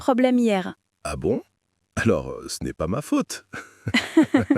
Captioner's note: laughs